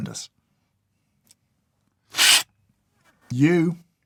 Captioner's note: slurp